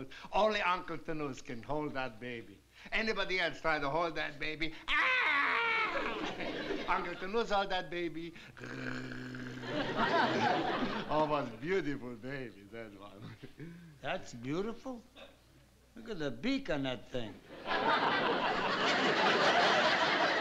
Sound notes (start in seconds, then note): 4.8 mimics baby screaming; 8.7 mimics baby cooing